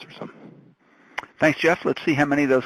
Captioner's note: voiceover